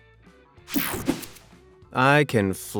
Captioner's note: whooshing sound